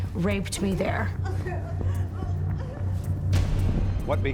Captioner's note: crying